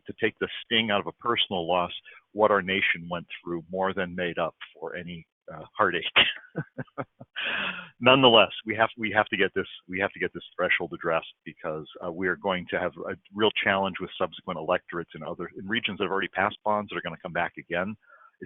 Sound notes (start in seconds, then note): 6.1 laughs